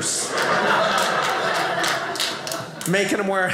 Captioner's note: audience laughing